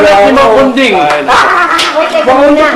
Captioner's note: laughs